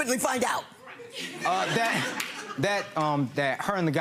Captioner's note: laughing